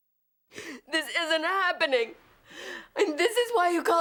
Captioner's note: sobbing